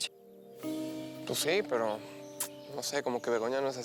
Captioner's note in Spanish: chasquido bucal